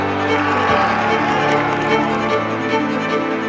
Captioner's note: team cheering; dramatic upbeat music